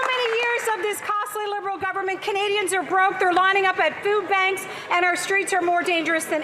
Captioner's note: cheering and Applause